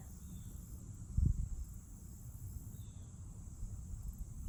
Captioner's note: bird chirps enthusiastically from distant treetop